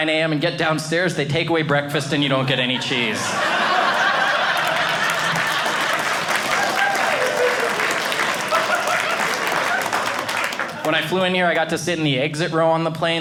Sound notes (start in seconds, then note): 3.2 audience laughing; 6.2 audience cheering